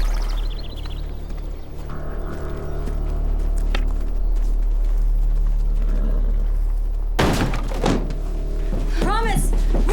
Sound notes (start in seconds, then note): 7.2 door busts open